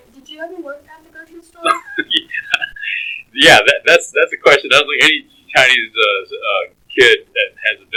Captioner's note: laughs